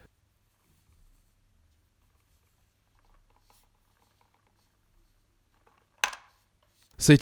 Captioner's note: more awkward silence